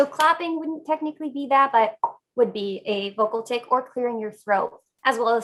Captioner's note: pop sound with mouth